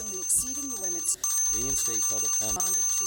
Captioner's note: bell ringing; bell rings; bell ringing